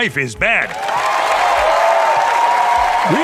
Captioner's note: applause and cheers